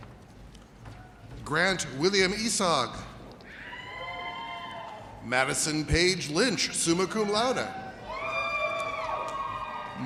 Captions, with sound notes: Grant William Esog. (audience cheers) Madison Paige Lynch, summa cum laude. (audience cheers)